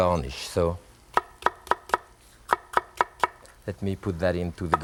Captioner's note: knife tapping